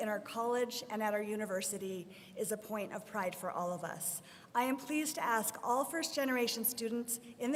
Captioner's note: none